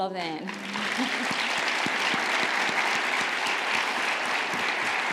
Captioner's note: audience applauding